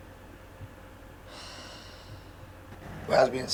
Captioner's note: deep Sigh